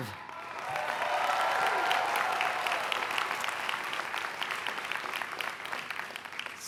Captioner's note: cheering and applause